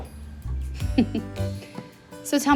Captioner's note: laughs